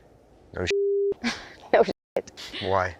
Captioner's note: laughs